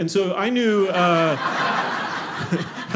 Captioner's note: audience laughing